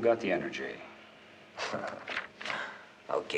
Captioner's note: chuckles